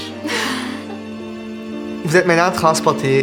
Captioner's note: chuckle